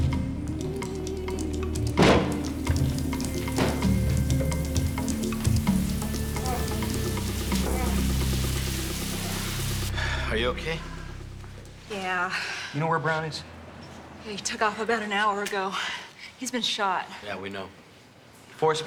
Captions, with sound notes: (water running) (groaning) Are you okay? Yeah. You know where Browne is? He took off about an hour ago. He's been shot. Yeah, we know.